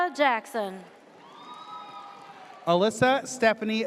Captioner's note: audience cheers